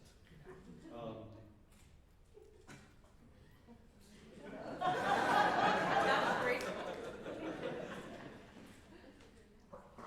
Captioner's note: laughter